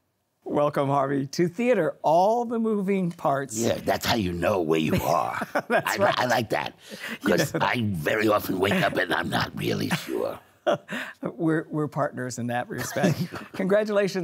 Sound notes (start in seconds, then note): 10.0 laughing